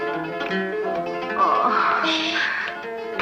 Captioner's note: groans